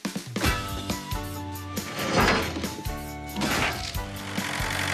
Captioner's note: panels Clanging